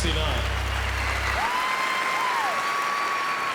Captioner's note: cheering